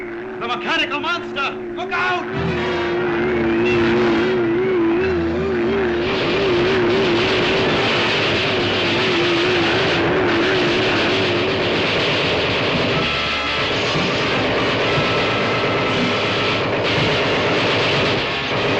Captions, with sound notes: - The mechanical monster. Look out! (dramatic music) (guns popping)